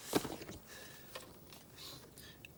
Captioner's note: sniffing